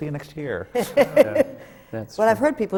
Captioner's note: laughter